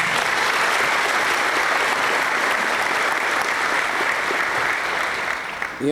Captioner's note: applause